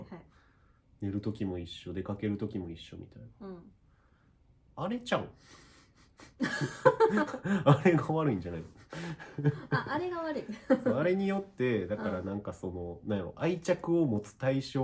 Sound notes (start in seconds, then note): 8.8 laughs